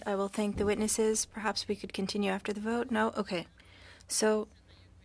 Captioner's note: speaking French